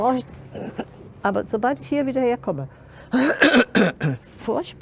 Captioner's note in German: hustet; hustet stärker